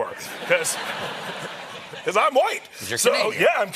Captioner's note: laughter